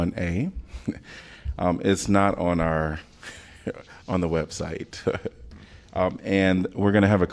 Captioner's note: laughter